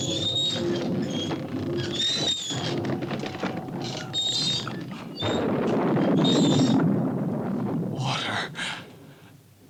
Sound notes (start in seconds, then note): 4.7 thunder rumbles